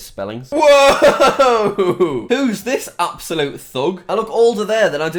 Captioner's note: laughs